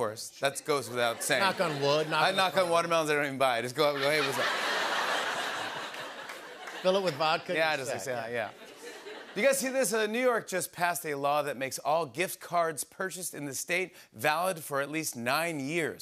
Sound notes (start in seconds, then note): 3.8 laughter